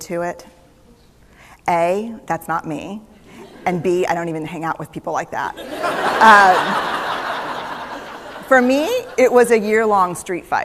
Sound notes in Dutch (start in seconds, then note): 5.6 Gelach